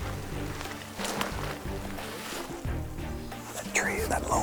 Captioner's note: whispering